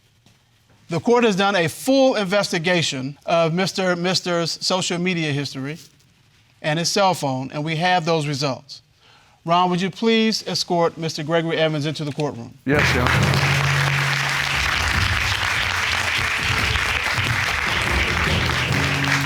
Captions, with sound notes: Yes, sir. The court has done a full investigation of Mr. Misters social media history and his cell phone and we have those results. Ron, would you please escort Mr. Gregory Evans into the court room? Yes, Your Honor. (AUDIENCE APPLAUDING) (DRAMATIC MUSIC)